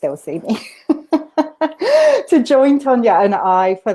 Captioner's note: laughter